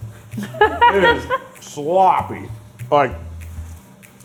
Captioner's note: laughing